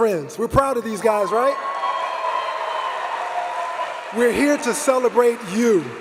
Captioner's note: cheers